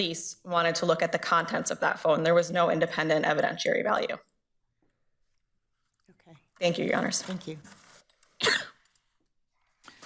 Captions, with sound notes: wanted to look at the contents of that phone. There was no independent evidentiary value. Thank you Your Honors. - Thank you. (coughs)